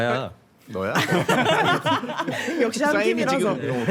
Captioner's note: laughter from the start